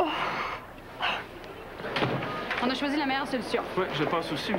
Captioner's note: Pleurs